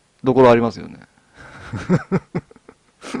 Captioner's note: laughter